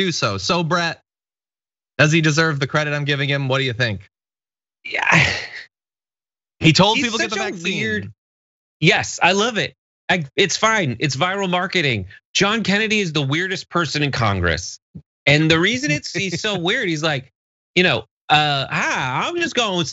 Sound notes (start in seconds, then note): 6.8 laugh